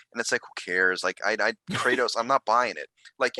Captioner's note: laughing